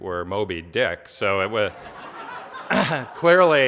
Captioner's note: audience laughs